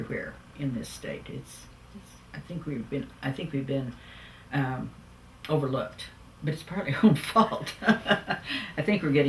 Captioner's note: laughs